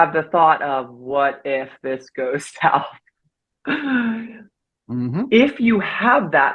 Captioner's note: chuckles